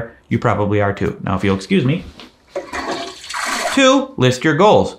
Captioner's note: toilet flushes